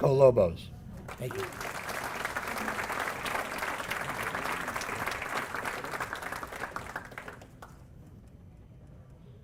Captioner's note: applause